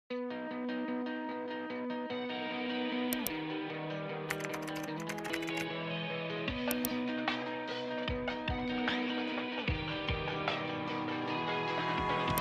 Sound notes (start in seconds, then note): 0.4 lively music; 3.1 mouse click; 4.3 keyboard typing; 6.6 mouse click; 6.6 lively music; 12.1 mouse click